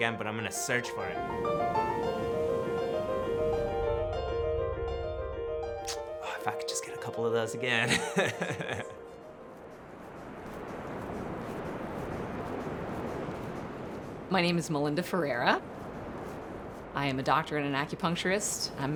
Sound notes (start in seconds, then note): 2.3 bright piano music continues; 7.8 laughs; 10.7 ocean crashing